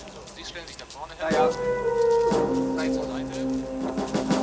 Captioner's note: speaking german